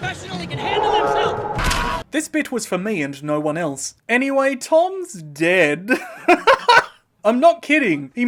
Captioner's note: laughter